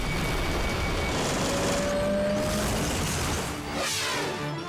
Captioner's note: helicopter crashes